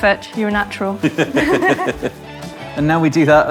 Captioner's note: both chuckle